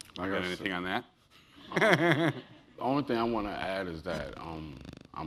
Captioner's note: laugh